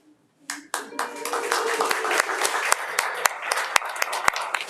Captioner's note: audience applauding